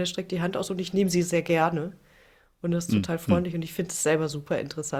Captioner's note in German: räuspern